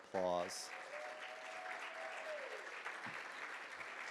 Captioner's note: audience applauds